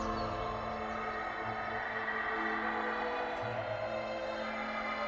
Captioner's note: birds chirping; screaming echoing